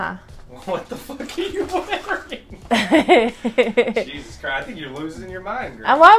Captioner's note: laughter